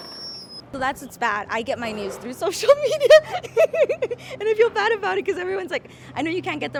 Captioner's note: laughing